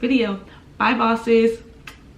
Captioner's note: kisses